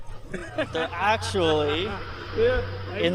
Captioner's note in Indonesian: tertawa